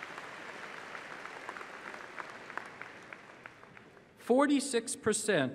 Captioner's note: applause